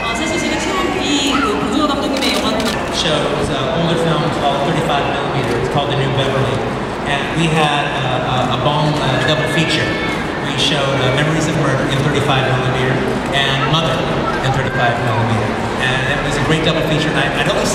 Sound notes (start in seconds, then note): 0.7 speaking Korean